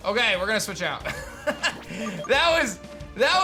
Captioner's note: laughs